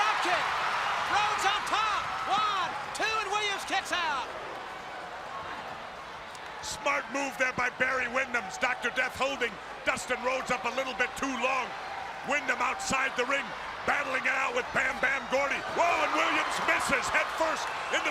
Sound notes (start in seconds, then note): 5.0 crowd chatter